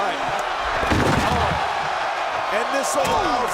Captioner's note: crowd cheering